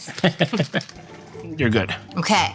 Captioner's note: laughs